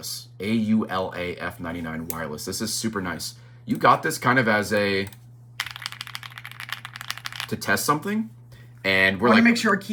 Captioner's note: key clacks